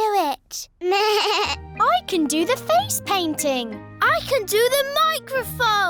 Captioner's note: bleats